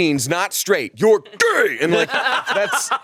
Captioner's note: both laughing